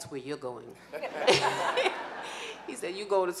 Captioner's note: laughing